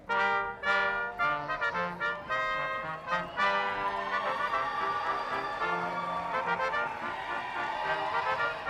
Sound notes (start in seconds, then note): 2.6 audience cheering loudly; 2.6 upbeat marching band music